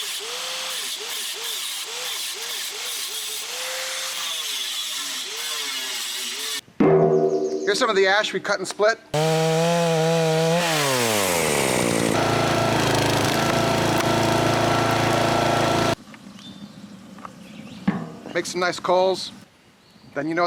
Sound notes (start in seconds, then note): 6.9 metal clanging; 9.1 chainsaw whirring; 12.4 splitter whirring